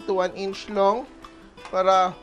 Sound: sizzle

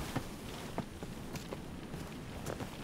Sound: footsteps

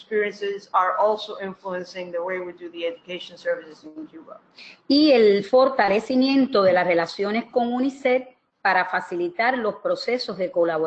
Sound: speaking another language

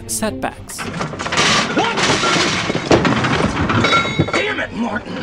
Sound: metal clanging

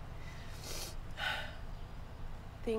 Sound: sniffling

